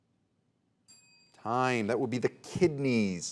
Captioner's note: soft chiming